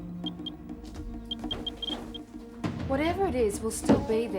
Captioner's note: geiger counter beeps